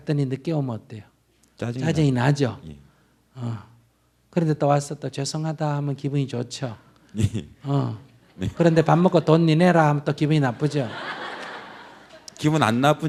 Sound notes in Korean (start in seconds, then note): 8.2 웃음; 10.4 청중 웃음